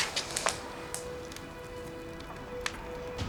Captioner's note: footsteps; fire crackling